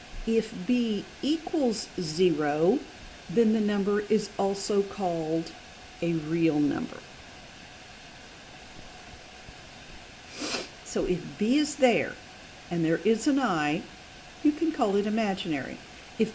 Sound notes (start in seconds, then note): 10.3 sniffles